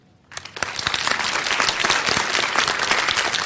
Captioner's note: applause